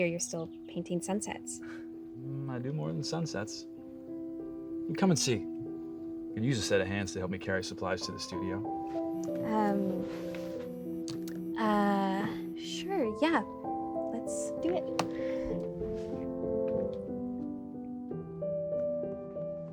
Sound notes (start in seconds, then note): 9.8 phone vibrating; 16.9 gentle music